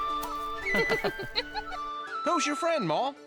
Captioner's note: both laughing